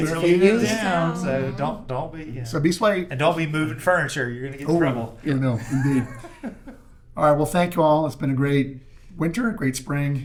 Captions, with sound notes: It's really good. It's really good. It's down, so don't be, yeah. So be sweaty. Don't be moving furniture, you're gonna get trouble. Oh, yeah, no, you do. (Laughing) All right, well thank you all. It's been a great winter, a great spring.